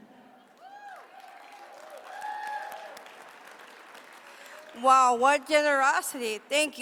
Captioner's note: applause